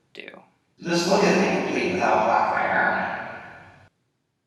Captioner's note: echoing